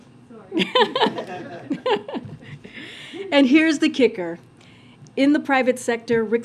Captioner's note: laughs